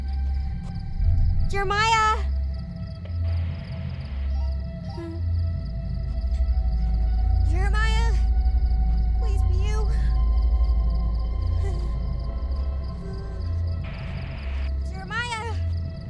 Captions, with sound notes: Jeremiah? [walkie-talkie crackling, beeps] [Mayday whining] Jeremiah? Please, be you. [Mayday whining] -[walkie-talkie crackling] -Jeremiah?